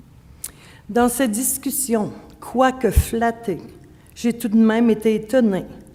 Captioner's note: speaking French